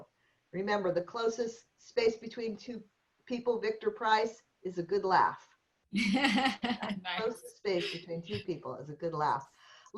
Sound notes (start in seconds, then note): 6.0 laughter